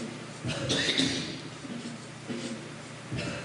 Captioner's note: coughing